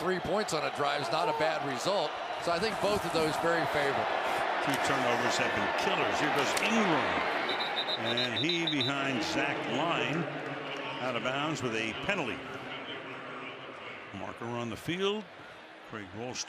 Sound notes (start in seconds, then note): 7.4 whistle